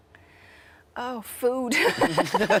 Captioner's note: laughs